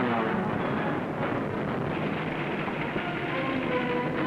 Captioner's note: explosions rumbling; sounds of war; ominous music